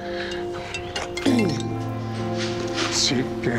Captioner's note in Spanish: Suena el celular